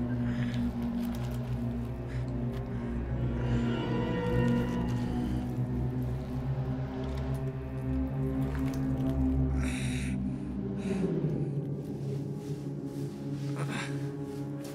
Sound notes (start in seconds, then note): 9.6 exhaling in pain